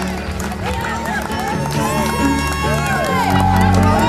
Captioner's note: crowd cheering; crowd clapping